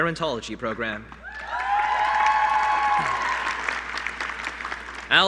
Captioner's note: applause